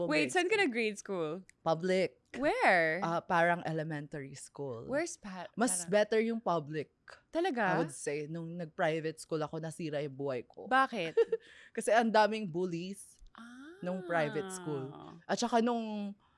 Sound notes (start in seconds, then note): 13.5 laughs